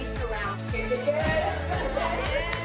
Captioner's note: crew laugh